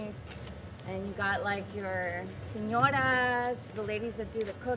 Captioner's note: speaks in Spanish